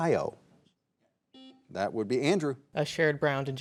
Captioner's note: buzzer buzzing